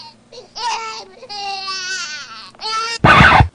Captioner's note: baby Crying